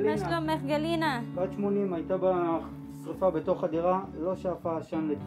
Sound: medics speak foreign language

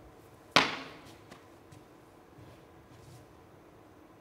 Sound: tape snaps; tape taps

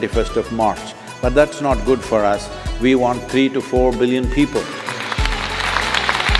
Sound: applause

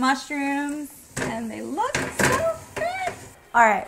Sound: door closing

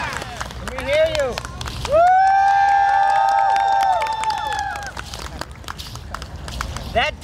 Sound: audience cheering

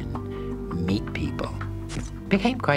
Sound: camera snapping

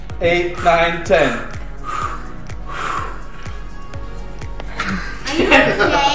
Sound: heavily breathes

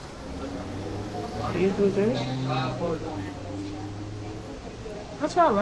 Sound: background chatter

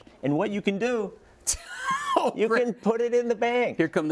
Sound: laugh

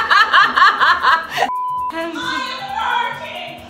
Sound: laughing; beep tone

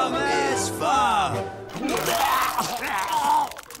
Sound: vomiting; laughing

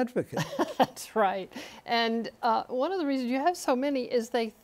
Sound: laughter

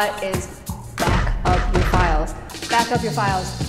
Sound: loud punching

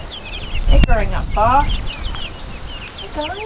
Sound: chicks chirping

